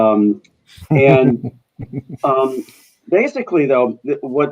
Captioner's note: chuckling